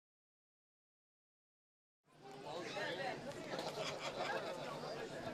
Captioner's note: indistinct chatter